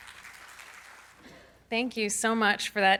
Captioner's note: audience claps